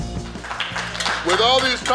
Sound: crowd applauding

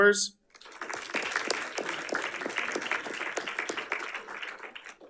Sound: audience applauding

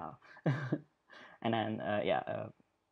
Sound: laughs

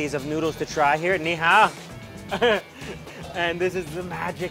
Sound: speaks in Chinese

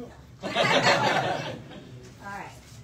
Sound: audience laughs

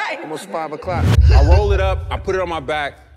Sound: wind whooshes

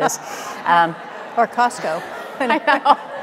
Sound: audience laughing; laughing

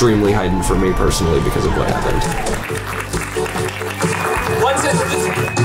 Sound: crowd cheering

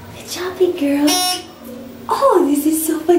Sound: beep

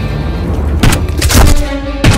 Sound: gun shot

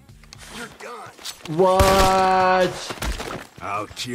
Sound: gun fires

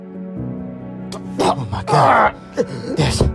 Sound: gasping for air

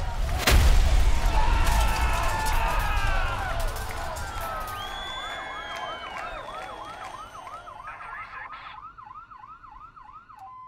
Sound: the crowd screams

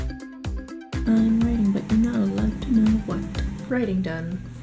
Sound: singsong

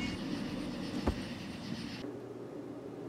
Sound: body thuds on ground

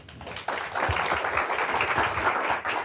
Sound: applause

